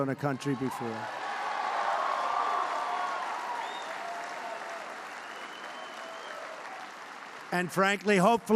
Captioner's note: applause